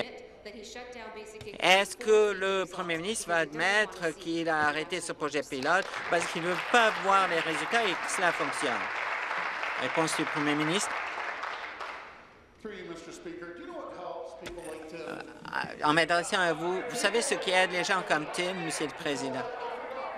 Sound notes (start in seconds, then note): 8.2 applause